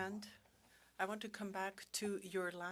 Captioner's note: speaking French